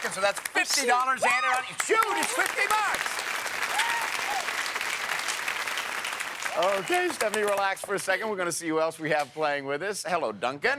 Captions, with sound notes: So, that's $50 added on. It's huge, it's 50 bucks. (cheers and applause) Okay Stephanie, relax for a second. We're going to see who else we have playing with us. Hello, Duncan.